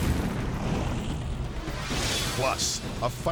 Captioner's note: flames whooshing; air whooshes